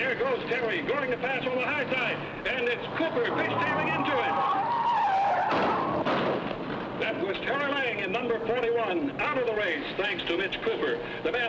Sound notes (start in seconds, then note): 4.6 tires screeching; 5.3 car thudding